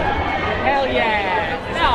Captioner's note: crowd chatters